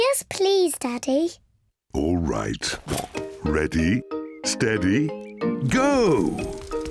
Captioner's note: snorts